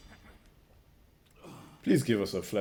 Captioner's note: soldiers grunting; exhales deeply